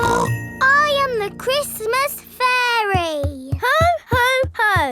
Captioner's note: snorts